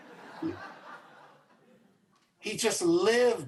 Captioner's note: audience laughs